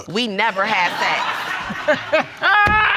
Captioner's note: judge lake laughing